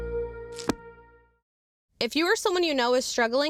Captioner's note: cover snaps